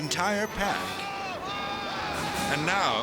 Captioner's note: yelling